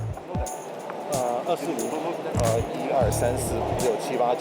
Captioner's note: in Mandarin